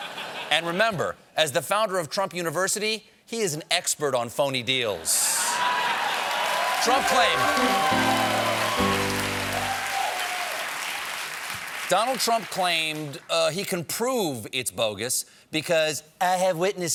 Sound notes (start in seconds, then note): 3.8 applause; 3.8 laughter; 7.0 piano riff